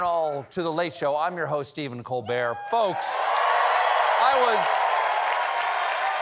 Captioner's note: cheers and applause